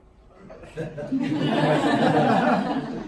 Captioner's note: laughing